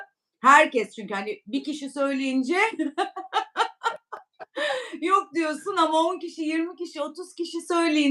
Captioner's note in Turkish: kahkaha